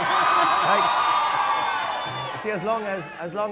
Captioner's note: audience cheering